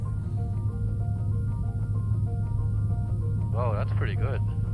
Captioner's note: aircraft engine noise, music